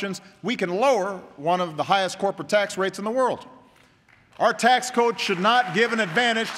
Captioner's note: applause